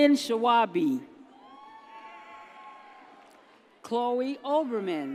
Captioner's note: audience cheers